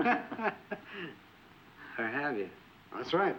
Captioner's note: all laughing